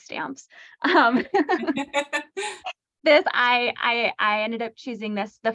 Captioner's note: laughter